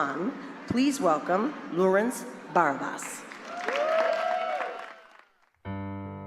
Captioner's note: applause